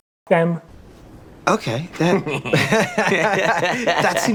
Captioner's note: laughs